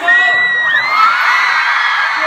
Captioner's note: fan cheers